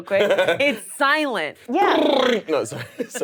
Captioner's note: rumbling lips